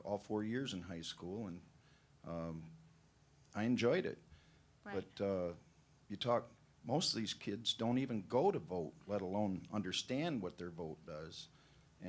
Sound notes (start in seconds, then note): none